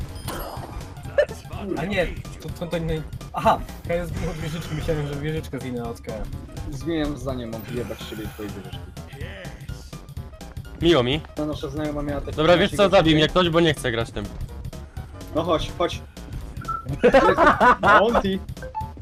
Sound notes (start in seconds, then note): 16.6 whistle; 16.8 laugh